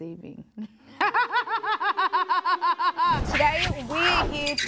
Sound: woman laughing hysterically

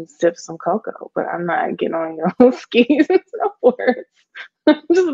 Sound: laughs

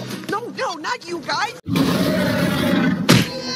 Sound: roar; screaming

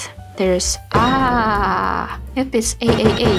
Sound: in a yelly way

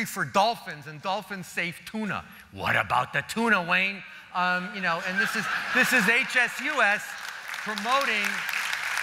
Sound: applause

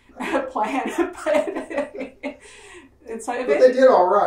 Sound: laughs

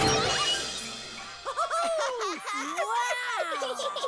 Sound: giggles

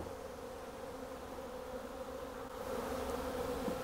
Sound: bees buzzing

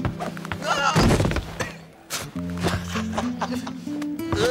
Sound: yelping; laughing

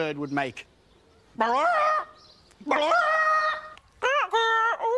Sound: bird noise

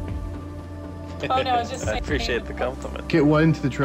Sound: Dr. Ross laughs

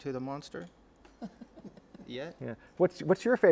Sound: laughter

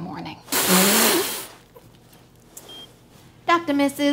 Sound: spraying

